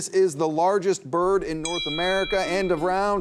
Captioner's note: bell dinging